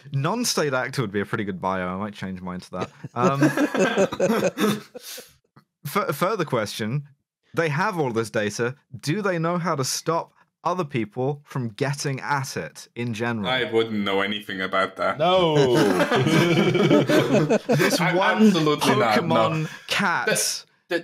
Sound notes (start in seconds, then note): 2.8 laughter; 15.5 laughter